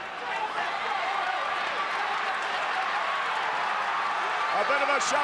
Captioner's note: audience cheering